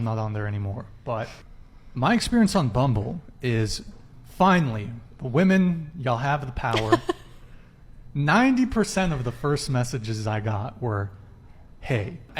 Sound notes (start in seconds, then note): 6.7 laughs